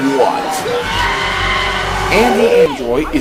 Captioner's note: screaming in pain